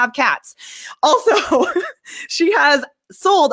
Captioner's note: laughs